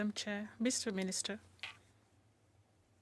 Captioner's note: speaking French